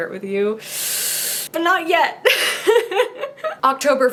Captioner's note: giggles